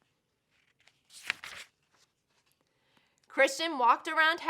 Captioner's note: paper rustles